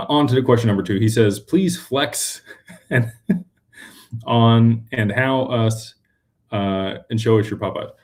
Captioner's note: laughter